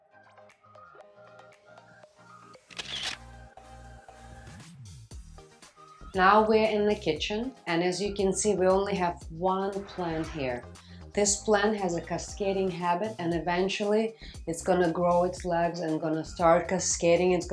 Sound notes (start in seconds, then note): 0.2 soft pop music; 2.6 camera shutters